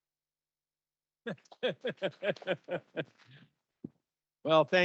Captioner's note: laughs